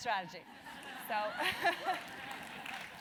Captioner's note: applause